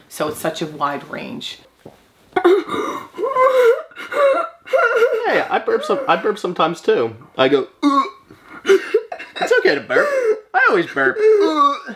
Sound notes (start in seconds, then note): 2.4 burps; 2.4 vocalizes; 8.4 laughing